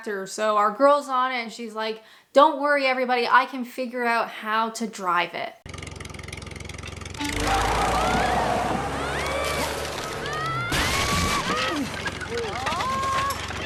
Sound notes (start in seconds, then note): 5.7 engine starts; 7.2 screams; 9.5 crash; 11.5 screams